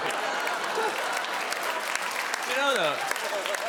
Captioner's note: crowd laughing and clappin